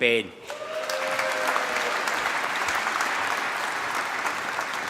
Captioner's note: applause